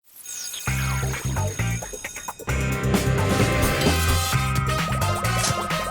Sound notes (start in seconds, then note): 0.5 school bell ringing; 0.6 upbeat funky music